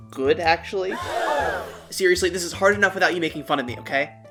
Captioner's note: gasps